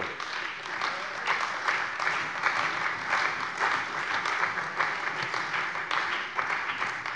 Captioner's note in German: Beifall bei der CDU und dem BÜNDNIS 90/DIE GRÜNEN